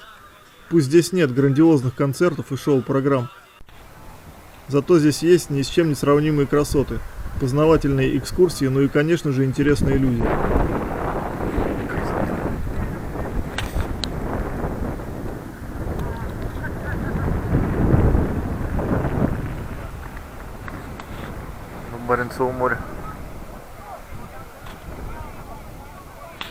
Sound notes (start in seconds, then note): 11.3 wind and sea rustling